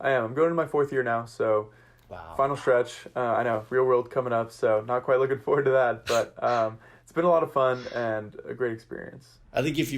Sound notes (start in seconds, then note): 7.2 chuckles